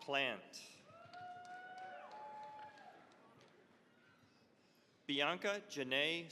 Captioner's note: cheering, applause